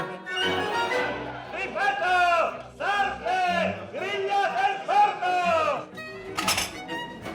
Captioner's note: shouting in Italian